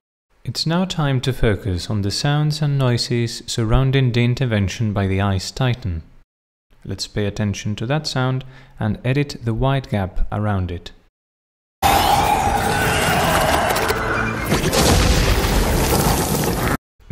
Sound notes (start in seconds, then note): 11.8 blizzard; 14.5 thunder